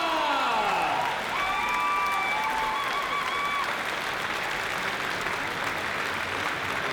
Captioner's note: cheering; applause